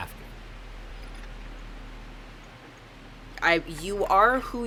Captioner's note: white noise